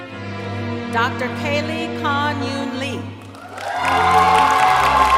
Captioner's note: cheering